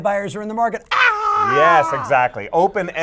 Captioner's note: screams